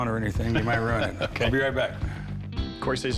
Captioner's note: laughs